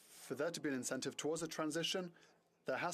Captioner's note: speaking french